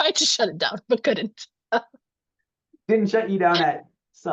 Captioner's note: chuckling